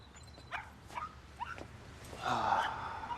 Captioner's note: dog barking